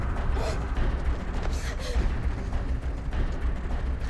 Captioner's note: Mattie whimpering